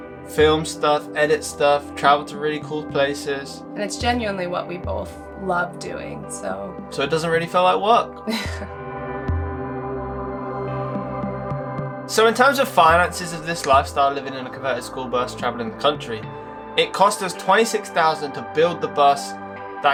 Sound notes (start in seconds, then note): 8.2 laughs; 9.1 soft upbeat music playing